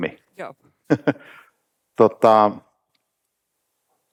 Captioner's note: chuckles